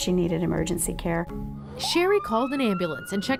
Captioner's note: siren - ambulance